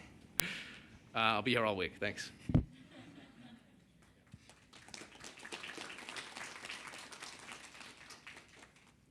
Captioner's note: applause